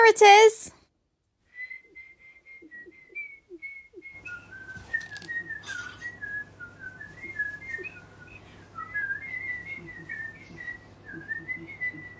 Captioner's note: whistling a tune